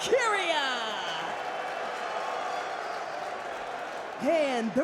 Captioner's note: crowd cheers and boos